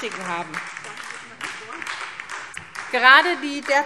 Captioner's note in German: Beifall SPD